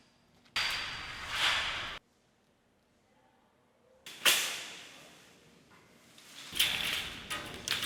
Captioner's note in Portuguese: Sons metálicos